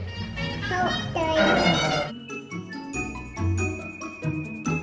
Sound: blabbering; light, festive music

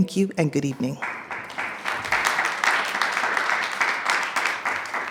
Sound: attendees clapping

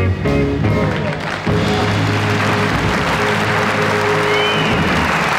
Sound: audience clapping

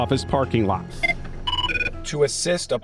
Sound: phone ringing

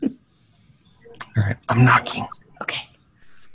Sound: giggles; whispers

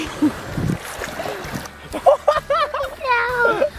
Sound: laughter

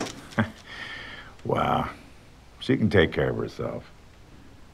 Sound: chuckles

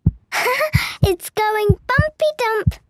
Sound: heart beating

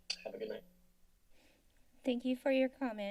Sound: inhales

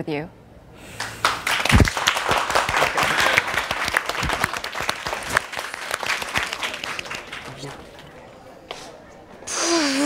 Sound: claps

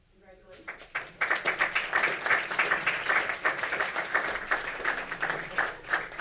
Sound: audience applauds

